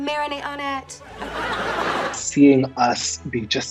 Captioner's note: audience laughing